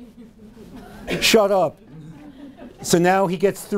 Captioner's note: audience laughing